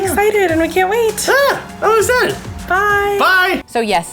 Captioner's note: yells